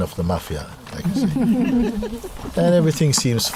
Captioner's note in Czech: Smích